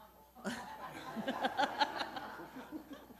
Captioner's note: laughing